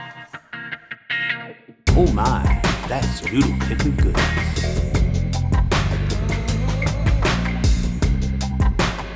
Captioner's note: deep voice 'Oh my, that's noodle pimpin goodness'